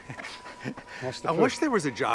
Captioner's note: laughs